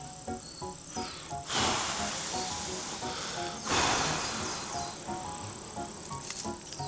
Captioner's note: breathing of type 1 wind